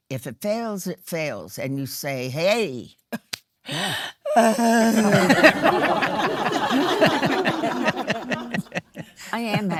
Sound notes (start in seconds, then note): 4.6 cries; 4.6 laughing; 4.8 audience laughing